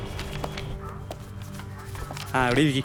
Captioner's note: police radio